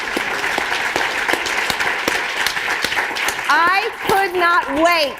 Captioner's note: applause